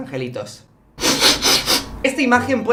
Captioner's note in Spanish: Ruido de mocos